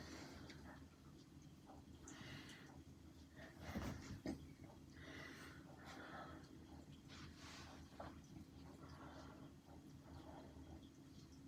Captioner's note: loud breathing sounds no words